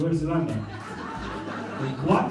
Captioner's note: laughter